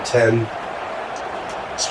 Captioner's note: crowd Noises